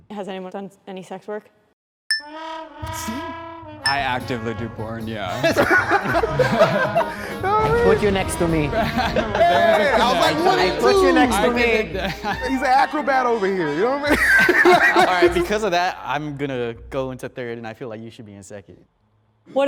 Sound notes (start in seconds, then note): 2.1 bell dings; 5.7 group laughs; 9.6 group laughs; 15.1 group laughs